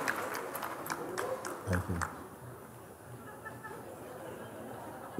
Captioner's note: Lachen